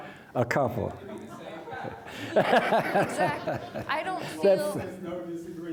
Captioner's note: audience laughing